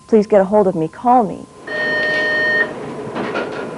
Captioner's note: beeping